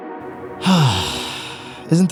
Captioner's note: sigh